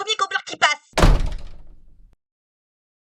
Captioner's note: doorslam.mp3